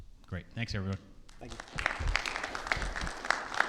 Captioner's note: hands clapping